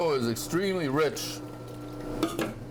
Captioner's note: milk pouring